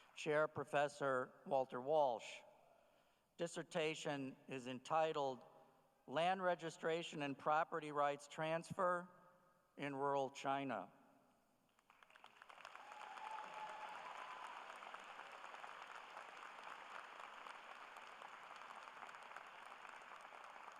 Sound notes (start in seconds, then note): 11.9 cheers and applause